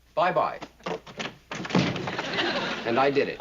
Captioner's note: door sticking